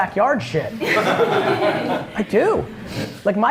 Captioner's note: laughs